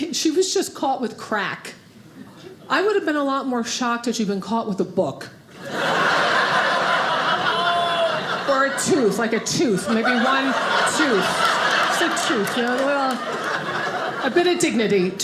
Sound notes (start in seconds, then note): 6.2 audience laughing